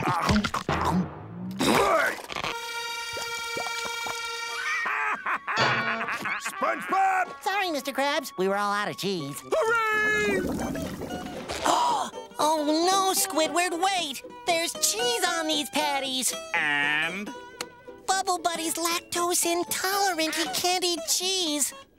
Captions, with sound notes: [laughing] SpongeBob! Sorry, Mr. Krabs. We were all out of cheese. Hooray! [gasping] Oh no, Squidward, wait. There's cheese on these patties! And? Bubble Buddy's lactose intolerant. He can't eat cheese.